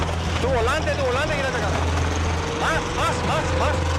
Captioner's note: Spanish spoken audio